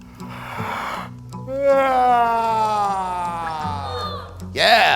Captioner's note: and kids yawning